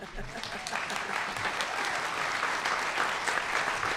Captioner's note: applause